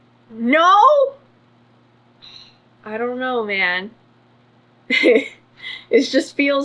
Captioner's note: laughs